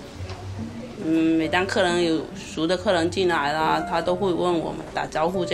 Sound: speaking Mandarin

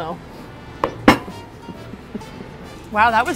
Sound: giggling

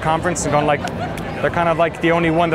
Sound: claps

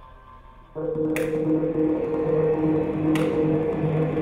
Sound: hands clapping

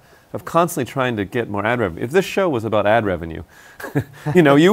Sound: laughs

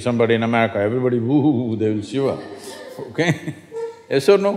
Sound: laugher

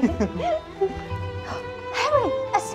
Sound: gasp

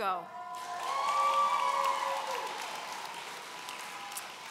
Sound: audience cheering

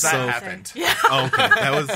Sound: laughs

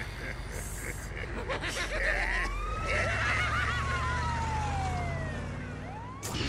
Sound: both of them start laughing

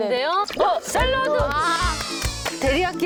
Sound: applause!

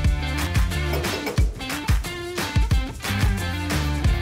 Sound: wrench clicks

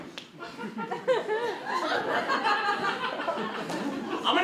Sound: audience laughter

